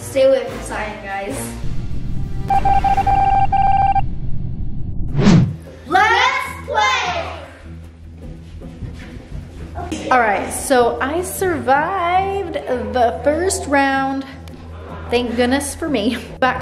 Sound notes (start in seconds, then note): 2.4 electronic beeping; 7.9 tense music